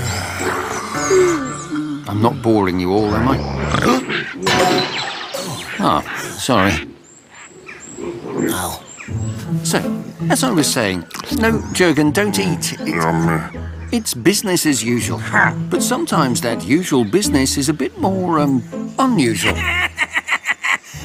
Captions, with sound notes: I'm not boring you all, am I? Huh?! Oh, sorry. Ow. So, as I was saying... No, Jurgen, don't eat... Yummy. It's business as usual... (SCOFFS) ..but sometimes that usual business is a bit more, um, unusual. (LAUGHS EVILLY)